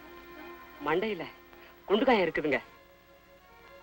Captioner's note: hindi Audio Spoken